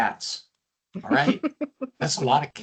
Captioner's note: laughing